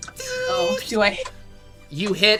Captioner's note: buzzing sound